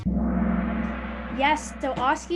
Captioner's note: gong